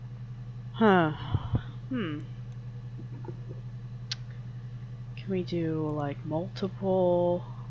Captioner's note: mouth clicks